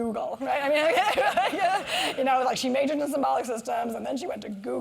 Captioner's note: laugh